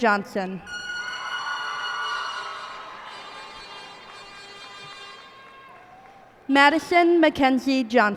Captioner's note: cheers and applause